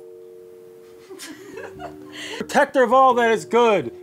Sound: laughing

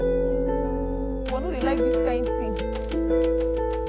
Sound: foreign language

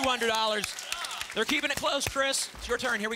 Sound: audience applause

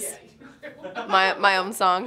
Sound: laughter

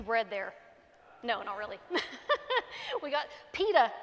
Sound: laughs

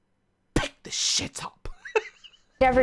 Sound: laughs

